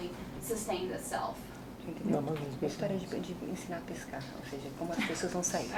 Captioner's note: speaking portuguese